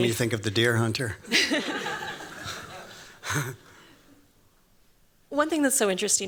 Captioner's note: laughter